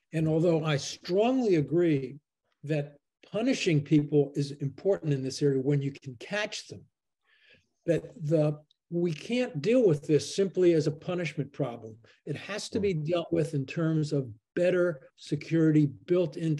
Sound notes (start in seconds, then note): none